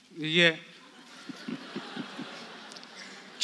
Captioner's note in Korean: 관객 : 웃음